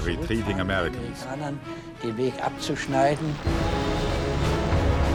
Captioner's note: speaking in foreign language; ominous music